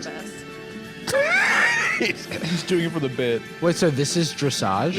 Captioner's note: laughs